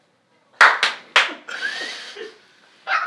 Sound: clap; laughter

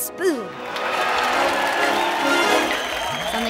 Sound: crowd cheering

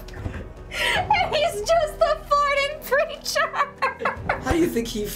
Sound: cracking up

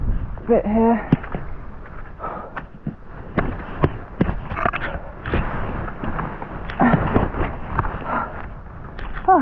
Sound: huffing & puffing

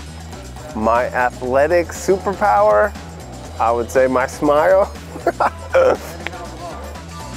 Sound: laughing

